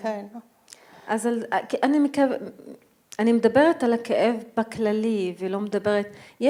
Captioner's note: speaking in foreign language